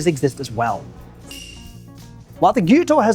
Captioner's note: bell rings